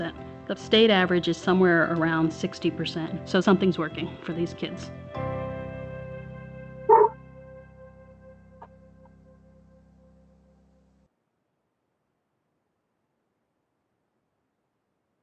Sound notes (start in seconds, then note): 5.7 soft music; 6.9 dog barks